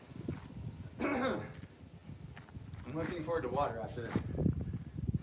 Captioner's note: clearing throat